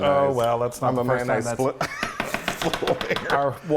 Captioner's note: laughing